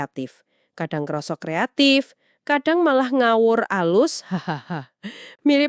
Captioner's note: chuckles